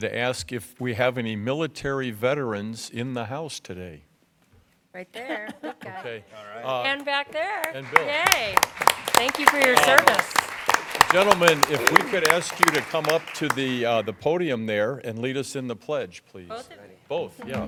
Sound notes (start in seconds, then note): 7.6 applause